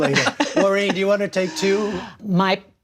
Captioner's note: laughter